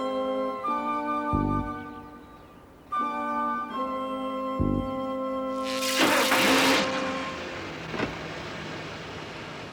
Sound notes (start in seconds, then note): 5.6 buzzes